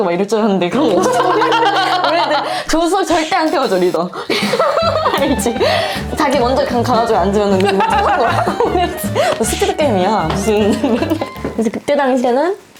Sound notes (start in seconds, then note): 7.2 laughing laughing